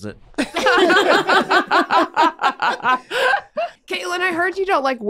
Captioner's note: group laughing